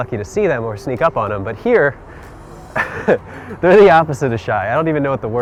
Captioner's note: laughs